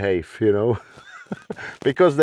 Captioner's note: laughs